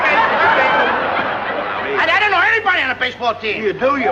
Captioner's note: laughter